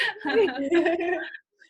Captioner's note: laugh